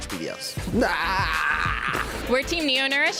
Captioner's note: yelling